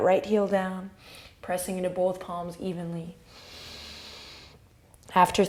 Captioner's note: inhale